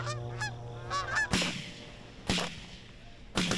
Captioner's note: gunshots blare